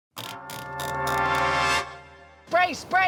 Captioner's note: typewriter turning